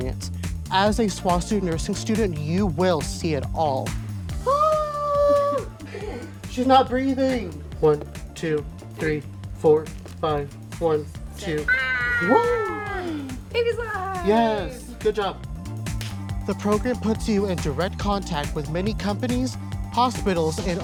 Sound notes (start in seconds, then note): 4.4 mimics baby crying; 11.6 mimicking baby crying